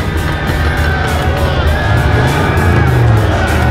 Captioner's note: crowd cheering